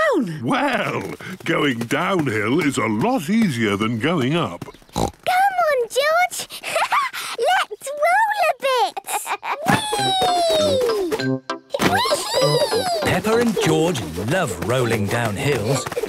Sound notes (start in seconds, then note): 4.6 snorts; 8.6 laughs